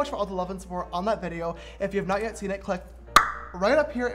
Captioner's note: tongue pop